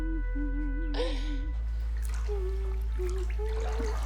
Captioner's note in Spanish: continúa tarareando la melodía